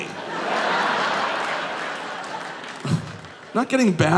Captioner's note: audience laughing